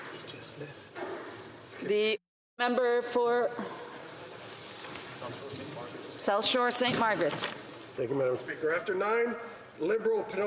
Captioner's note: speaking alternate language